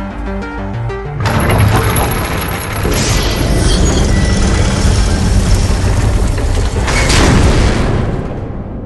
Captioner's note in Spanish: se cierra la puerta del barco